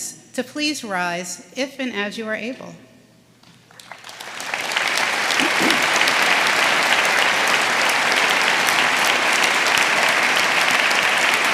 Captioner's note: applause